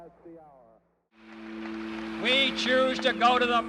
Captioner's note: applause; fast paced music